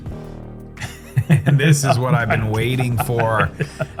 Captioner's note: laughs